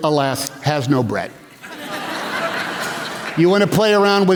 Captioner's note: laughter